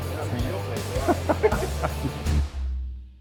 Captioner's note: laughing; mellow rock music